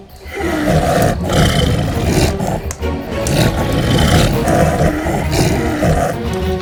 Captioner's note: creature snarling; tense music